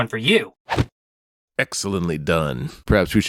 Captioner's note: Swish